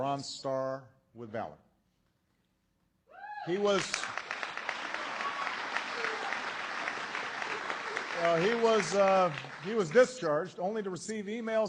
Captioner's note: applause